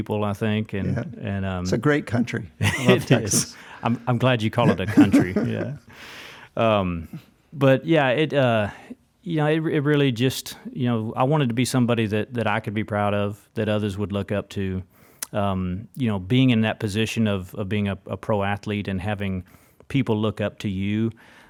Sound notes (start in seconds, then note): 2.6 laughs